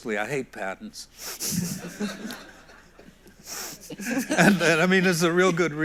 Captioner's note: everyone laughs